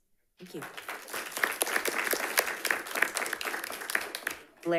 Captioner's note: audience applauding